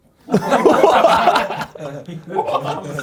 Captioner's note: audience laughs; laughs